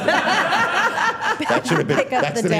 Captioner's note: all laughing